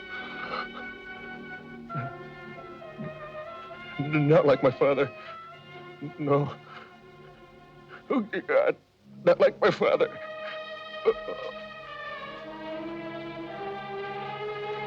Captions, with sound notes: (Christian whimpering) Not like my father. No. Oh, god, not like my father. (groaning)